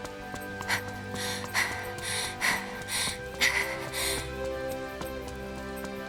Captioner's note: huff